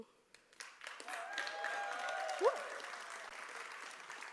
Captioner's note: applause